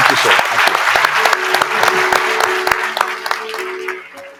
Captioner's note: applause